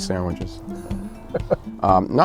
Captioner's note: laughs